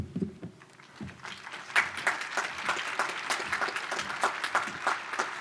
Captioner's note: audience applause